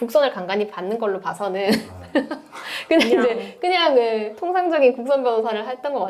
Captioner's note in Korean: 웃음